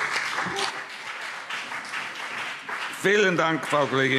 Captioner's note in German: Beifall BÜNDNIS 90/DIE GRÜNEN und CDU